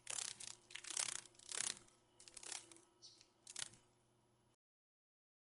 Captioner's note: sounds of a dragon fly